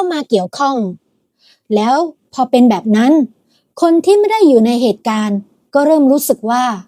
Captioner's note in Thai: เสียงสูดหายใจ